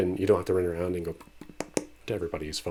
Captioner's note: tap tap tap